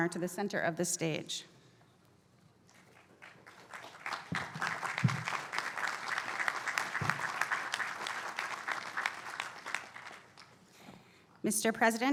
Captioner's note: applause